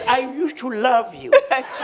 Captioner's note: laughter